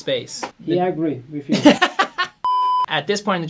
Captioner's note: laughs